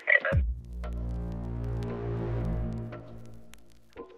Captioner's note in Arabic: مركب الغدر sfx; دقات طبلة ناعمة